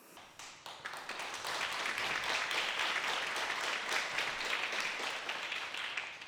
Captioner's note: applause